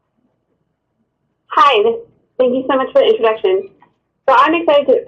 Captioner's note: voiceover